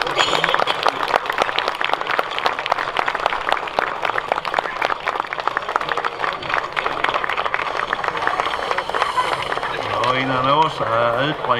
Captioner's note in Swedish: Applåder